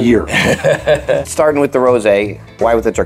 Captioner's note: chuckling